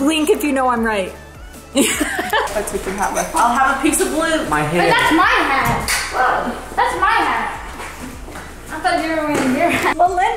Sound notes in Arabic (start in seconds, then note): 1.8 يضحك